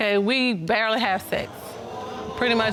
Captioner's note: audience exclaims